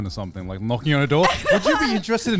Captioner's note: hosts laugh